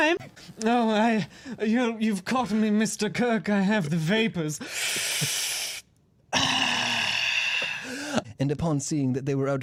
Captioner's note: deep inhale